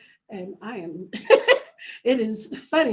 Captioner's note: laughing